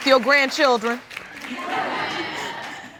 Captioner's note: audience laughs